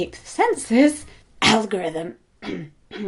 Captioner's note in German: Husten